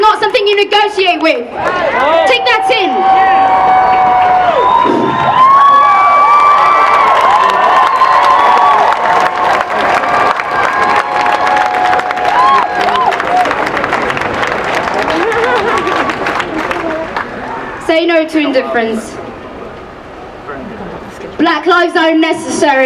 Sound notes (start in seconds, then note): 3.6 cheering and applause; 12.0 applause